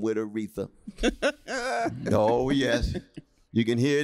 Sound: laughter

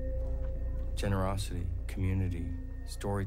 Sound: none

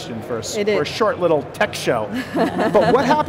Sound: laughs

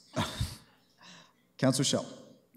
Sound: chuckles

